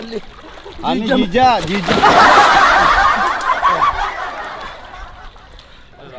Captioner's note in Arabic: يضحك